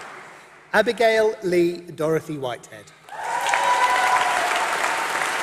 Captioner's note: applause